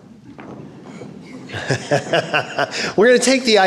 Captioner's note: laughing